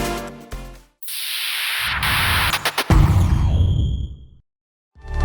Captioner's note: logo whooshes